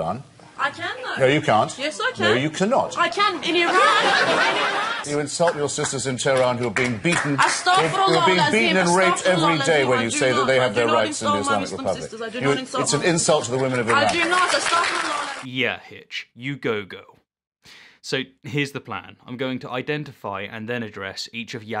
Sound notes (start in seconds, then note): 3.4 laughter